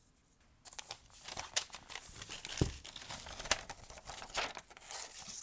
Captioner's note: plastic rustling